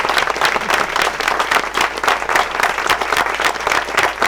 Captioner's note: group applauds